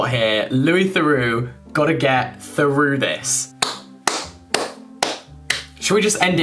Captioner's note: applauding